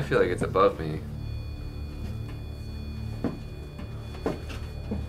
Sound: beeping

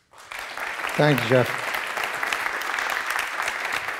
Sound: applause

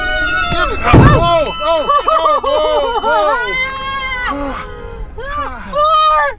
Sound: all screaming; car thumping

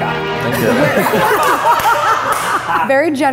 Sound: laughing

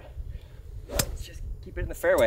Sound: golf club pings

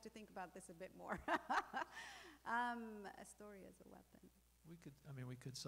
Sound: laughing

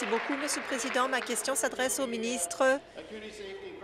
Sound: applause

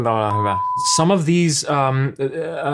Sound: stammers

